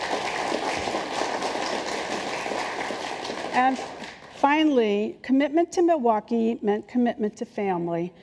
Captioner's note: applause